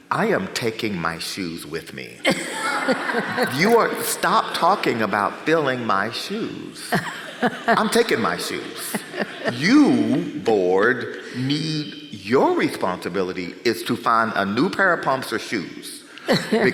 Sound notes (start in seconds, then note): 2.2 audience laughs; 6.8 chuckles